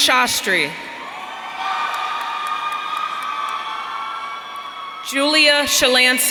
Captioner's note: audience cheering